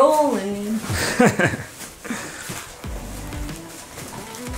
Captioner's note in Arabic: يضحك أبي